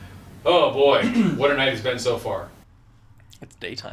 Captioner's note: laughs